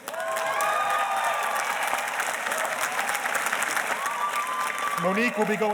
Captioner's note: audience cheers and applauds